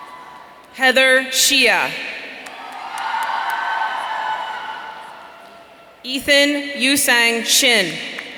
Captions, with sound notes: Heather Shieh. (audience cheering) Ethan Euisang Shin.